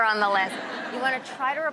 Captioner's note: laughing